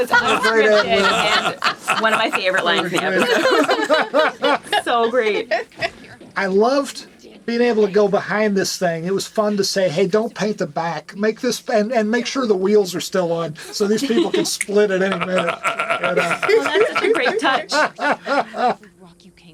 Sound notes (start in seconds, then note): 3.8 laughing continues; 13.6 laughing